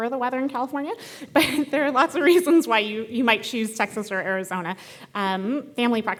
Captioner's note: laugh